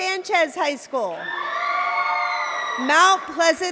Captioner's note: cheering